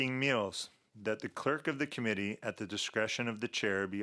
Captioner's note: speaking French